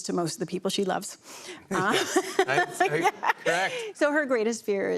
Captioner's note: laughs